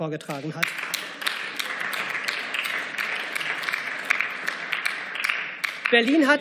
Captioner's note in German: Beifall